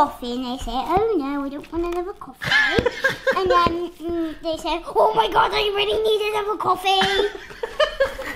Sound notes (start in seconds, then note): 2.4 laughing